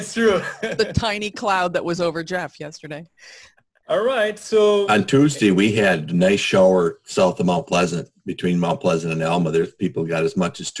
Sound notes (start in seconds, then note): 4.8 laughs